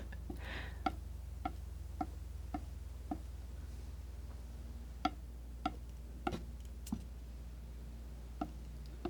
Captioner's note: tapping on the board